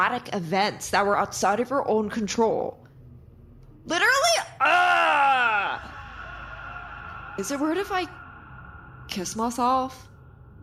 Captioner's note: echoing